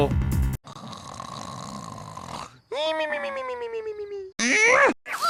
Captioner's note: Goodman's Snoring Like a Baby